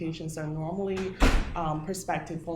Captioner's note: door slamming